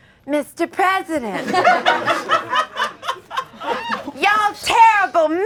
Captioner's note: audience laughing